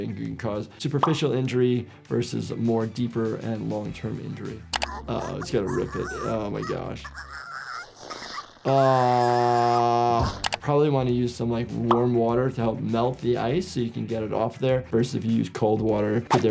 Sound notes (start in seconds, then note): 4.9 sniffles groaning; 9.2 sniffles cries